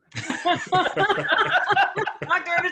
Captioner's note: laughter